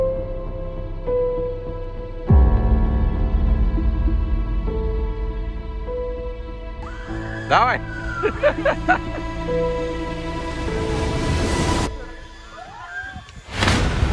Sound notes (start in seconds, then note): 8.1 laughter